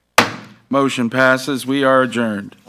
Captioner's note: gavel banging